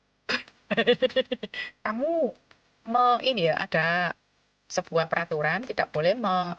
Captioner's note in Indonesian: tertawa